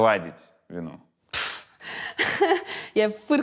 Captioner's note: snorts, laughs